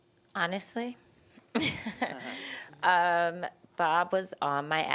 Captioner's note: giggling